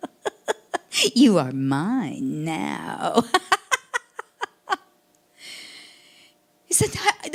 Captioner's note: laughing; laughing